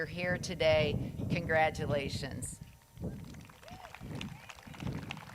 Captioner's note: crowd claps